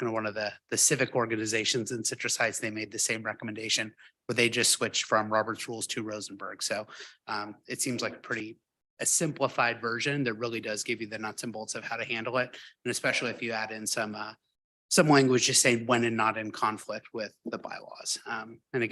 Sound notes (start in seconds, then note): none